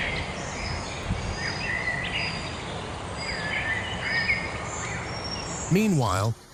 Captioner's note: birds chirping